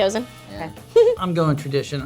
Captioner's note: Mary chortles